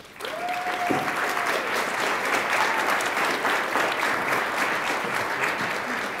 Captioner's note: attendees applauding